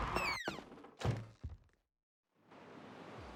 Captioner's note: door opens and closes sound